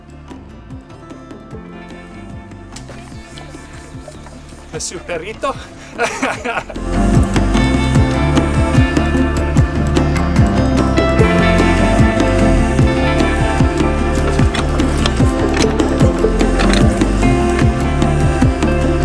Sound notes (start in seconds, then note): 1.4 mellow string music; 6.5 laughing; 7.2 calm music